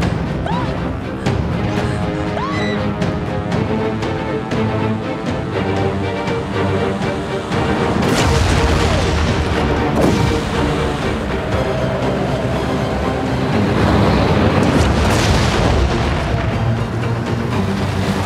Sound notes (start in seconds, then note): 2.3 screaming